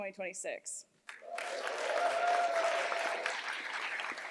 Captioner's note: cheers, applause